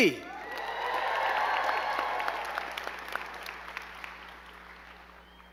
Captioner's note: crowd cheering and clapping